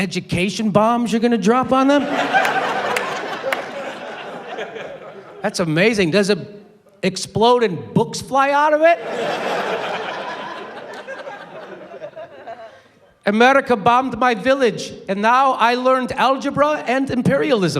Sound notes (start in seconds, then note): 12.1 foreign accent